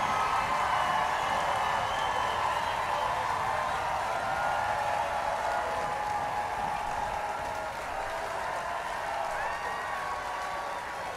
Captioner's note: applause